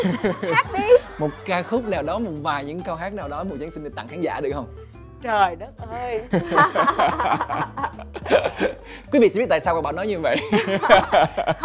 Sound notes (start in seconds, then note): 6.3 laugh; 10.6 laugh